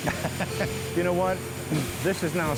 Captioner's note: laughter